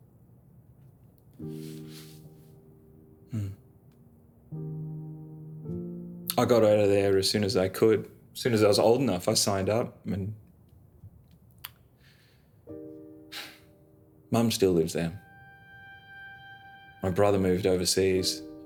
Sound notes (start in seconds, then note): 4.3 slow sad music; 13.3 sighs